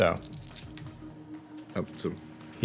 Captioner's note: dice rolling